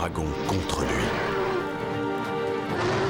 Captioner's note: snarling